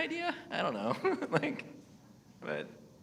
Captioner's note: laughs